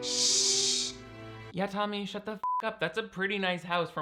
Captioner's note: Ethel shhing; beep